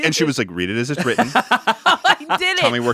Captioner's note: laughs